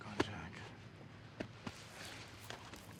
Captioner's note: footstep